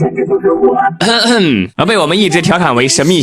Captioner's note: cough